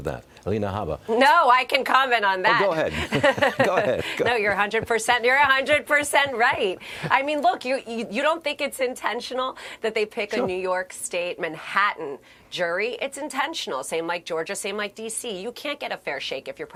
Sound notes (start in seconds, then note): 7.1 laughter